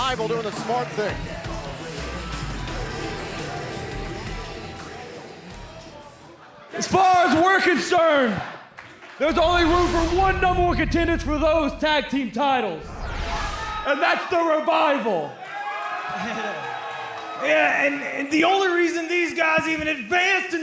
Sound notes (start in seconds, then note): 15.3 crowd cheering